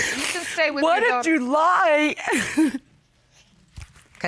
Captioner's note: sobs